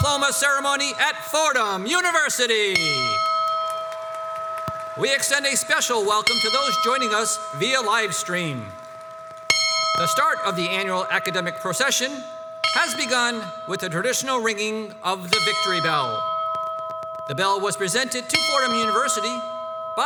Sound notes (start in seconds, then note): 2.8 bell rings; 4.5 crowd applauds